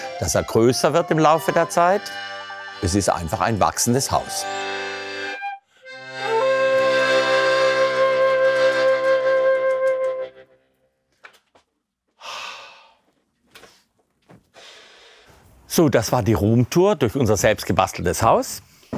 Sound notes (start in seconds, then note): 12.2 sigh